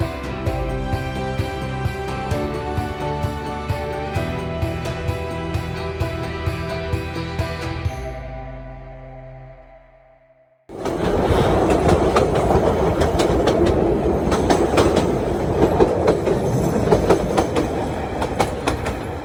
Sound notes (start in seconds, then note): 10.7 railway noises